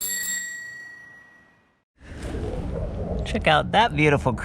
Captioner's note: bicycle bell tinkling